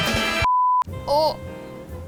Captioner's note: upbeat music; logo beeps